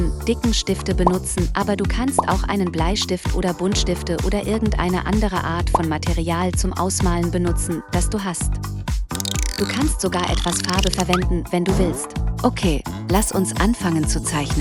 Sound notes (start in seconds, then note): 9.2 screen crackling; 9.2 upbeat music